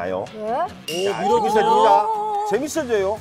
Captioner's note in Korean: 웅성웅성